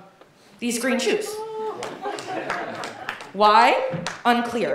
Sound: audience laughing

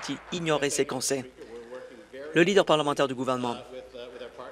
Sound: applause

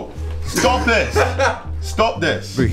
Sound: laugher

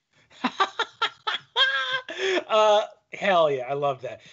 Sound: laughing

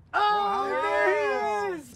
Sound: cheering

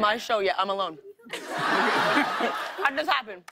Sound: laughter

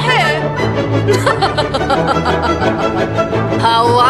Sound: laughs in british

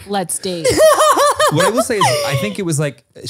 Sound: laughs

